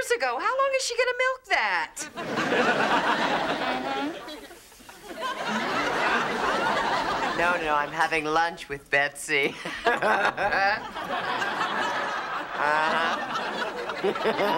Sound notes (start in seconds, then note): 9.5 laughing